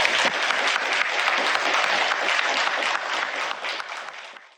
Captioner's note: audience applauds